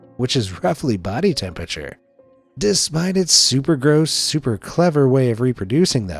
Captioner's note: none